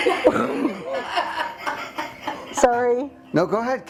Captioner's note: both laughing